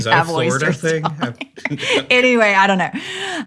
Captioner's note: laughs